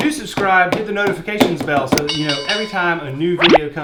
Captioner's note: bell dings